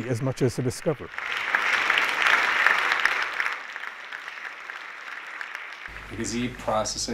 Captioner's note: applause